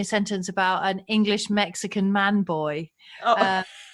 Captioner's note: laughs